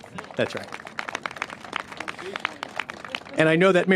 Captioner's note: applause